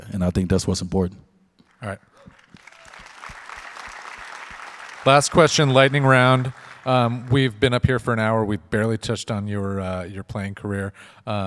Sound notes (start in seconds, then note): 2.1 audience applauds